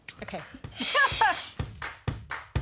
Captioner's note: laughs